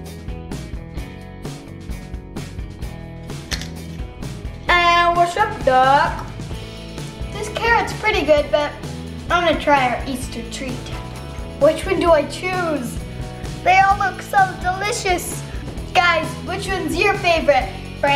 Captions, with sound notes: (acoustic music) (crunches) Eh, what's up doc? This carrot's pretty good, but I wanna try our Easter treat. Which one do I choose? They all look so delicious! Guys, which one's your favorite,